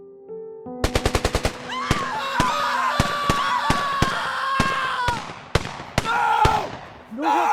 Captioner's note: gunfire echoing; people screaming